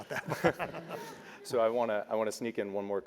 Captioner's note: laugh